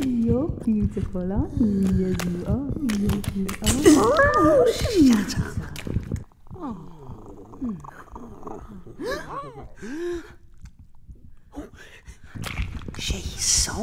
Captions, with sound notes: You're beautiful, aren't you? Yes, you are, yes you are. (cat meows) - Shut up. (purring) (gasps) - Oh! She saw me.